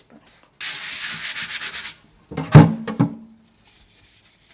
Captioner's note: scrubbing cutting board